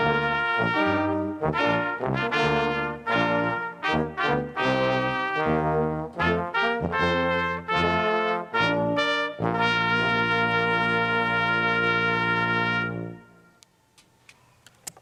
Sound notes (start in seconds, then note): none